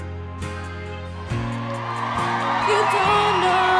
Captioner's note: crowd Cheers